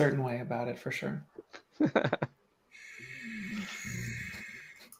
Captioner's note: laughter